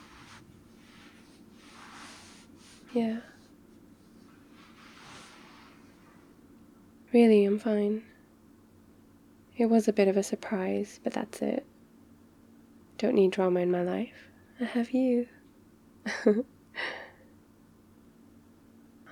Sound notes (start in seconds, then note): 13.0 teasing; 16.0 laughs